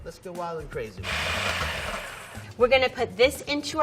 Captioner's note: food processor running